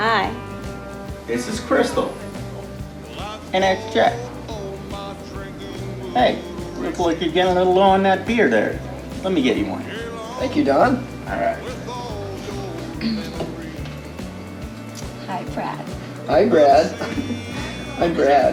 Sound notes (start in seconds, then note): 13.3 throat clearing; 16.8 giggling